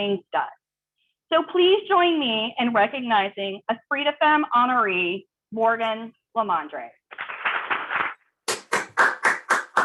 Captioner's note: applause